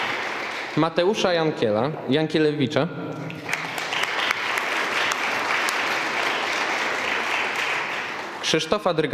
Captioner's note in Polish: oklaski; oklaski